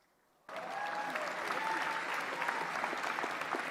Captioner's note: applause